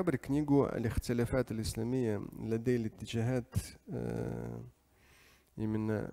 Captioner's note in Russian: говорит на арабском